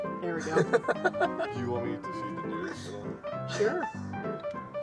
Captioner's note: laughter continues; juanty music